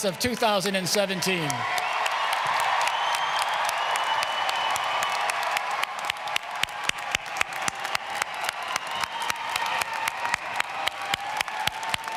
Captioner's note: applause and screams